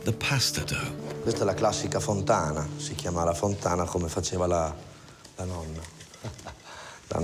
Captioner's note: speaks in foreign language